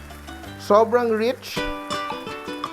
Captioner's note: sizzle